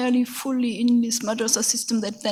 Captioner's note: speaks in a foreign language